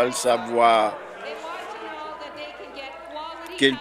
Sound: applause

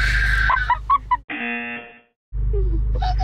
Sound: buzzer

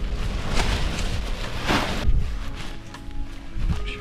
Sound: bag ruffling; relaxing music

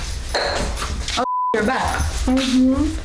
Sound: beep

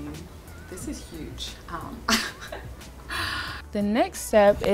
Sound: laughter

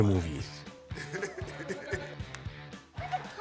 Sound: laughing

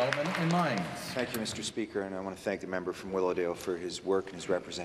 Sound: some Applause

